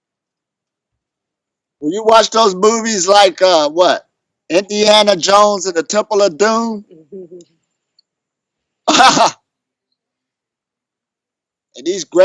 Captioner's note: laughs